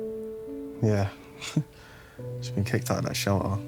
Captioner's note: Ethan chuckling